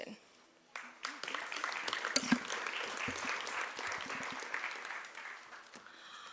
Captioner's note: applause